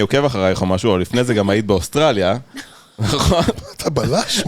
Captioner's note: laughs